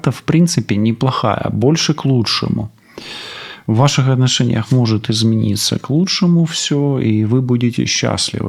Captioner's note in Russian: фыркает